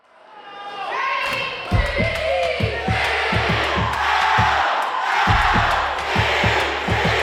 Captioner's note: cheering